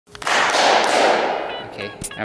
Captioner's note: loud banging